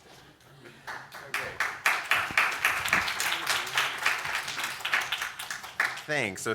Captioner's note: audience Applause